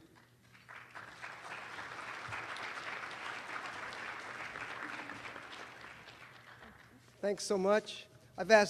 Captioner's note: applause